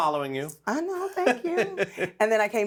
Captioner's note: laughing